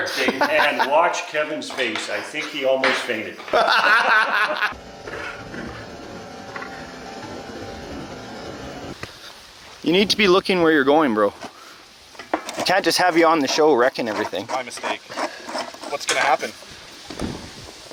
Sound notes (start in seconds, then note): 3.4 laughing; 4.6 machines whirring